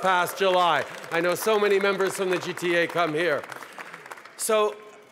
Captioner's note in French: Applaudissements